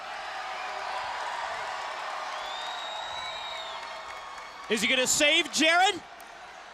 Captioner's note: crowd cheering